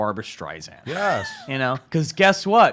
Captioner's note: laughs